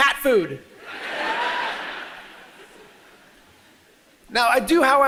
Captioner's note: audience laughs